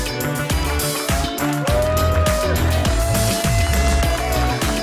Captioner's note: audience cheers